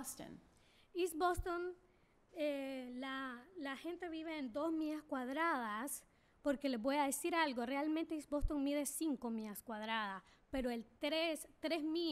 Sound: speaking spanish

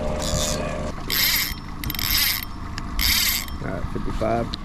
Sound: reel whirring

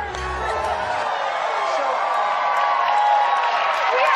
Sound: cheering

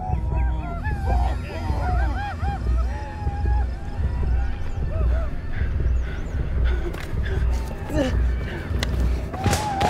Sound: man groaning; sound of jim's heart beating fast; arikara war cries; gunshots

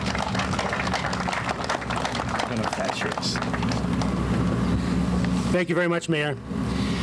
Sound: applause

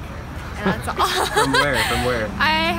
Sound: laughs

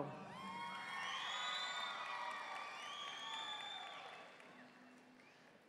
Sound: audience cheering and applauding

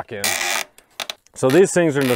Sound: metal screeching

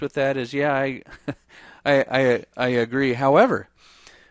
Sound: chuckles

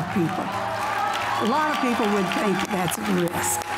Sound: audience cheers; audience applauds

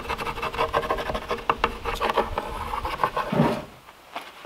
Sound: none

